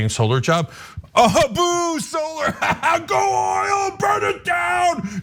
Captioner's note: laugh